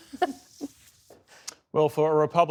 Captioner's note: laughter